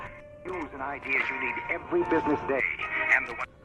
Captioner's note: man, on radio